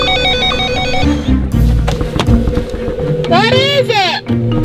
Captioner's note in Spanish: suena el teléfono